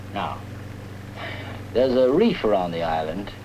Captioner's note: cawing